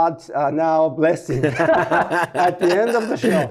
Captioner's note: laughter